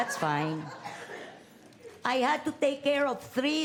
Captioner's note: laughter